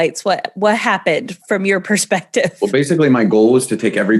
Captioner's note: giggles